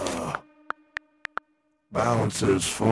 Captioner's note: phone keyboard clacking